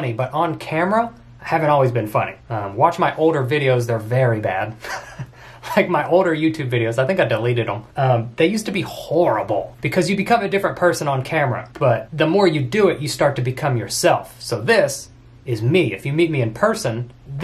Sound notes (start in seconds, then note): 5.2 laughs